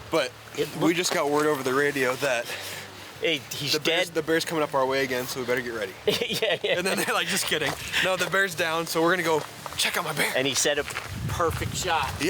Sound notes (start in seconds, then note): 6.0 laughing